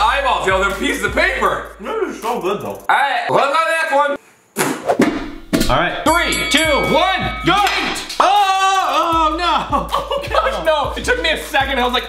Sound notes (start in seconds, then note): 4.6 spitting; 6.0 bell ringing three times